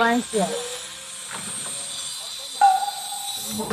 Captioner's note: bzzz